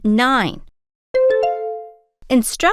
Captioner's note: bell ding